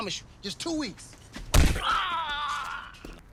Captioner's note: thud